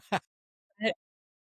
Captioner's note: laughing